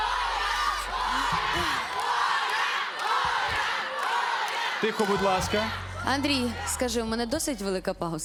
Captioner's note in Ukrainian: оплески